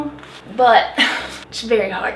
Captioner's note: huff